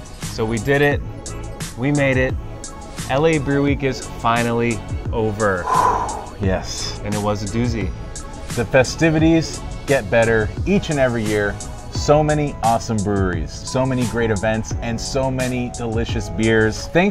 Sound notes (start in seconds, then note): 5.6 sighs